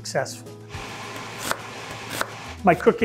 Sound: chopping onion

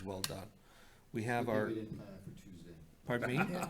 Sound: faintly speaking

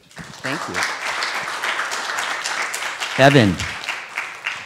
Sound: students clapping

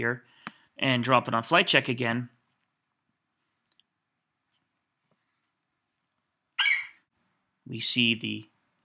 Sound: FlightCheck eagle screeches

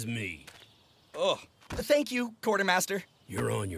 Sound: groans

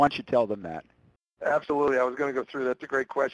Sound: voiceover

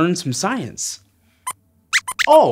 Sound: squeaks

